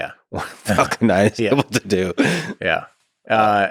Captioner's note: Lex laughs